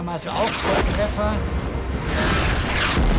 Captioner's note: shells exploding; tank exploding